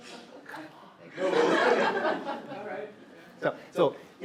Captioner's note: more audience laughter